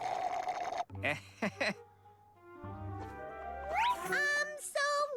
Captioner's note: slurp!; chuckles nervously